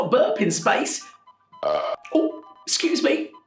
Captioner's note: burps